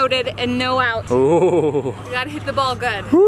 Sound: chuckles

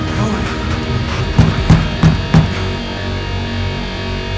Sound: pounding continues

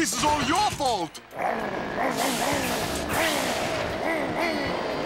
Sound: car revs angrily

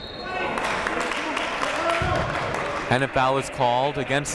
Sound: whistle blowing; clapping

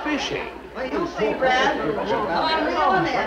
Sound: people mumble

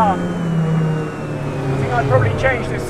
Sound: car roars

